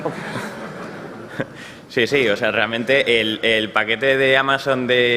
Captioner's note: laughs